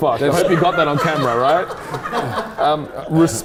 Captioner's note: audience laughing